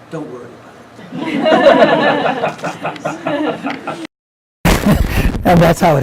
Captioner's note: laughing